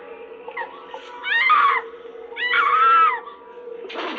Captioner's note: screaming; breathing heavily